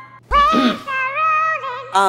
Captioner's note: Clears throat